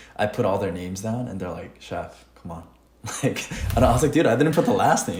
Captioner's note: laughs